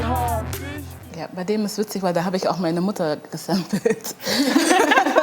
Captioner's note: laughter